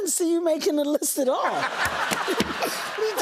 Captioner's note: laughter